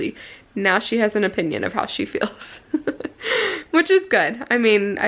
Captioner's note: laughing